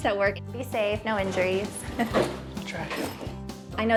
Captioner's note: laughing